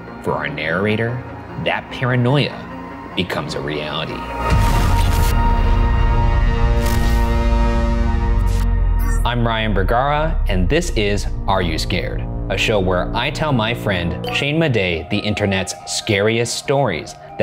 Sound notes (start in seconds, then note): 4.5 static whirring; 8.6 electric ding; 8.6 static whirring